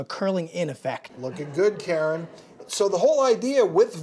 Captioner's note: audience laughs